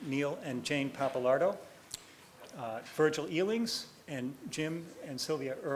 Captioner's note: none